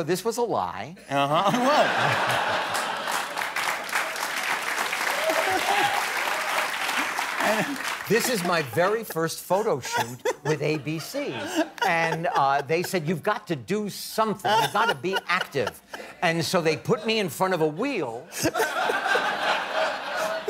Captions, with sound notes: OK, so this was a lie. Uh-huh? It was. [APPLAUSE] This is my very first photo shoot with ABC. And they said, you've got to do something. You've got to be active. And so they put me in front of a wheel--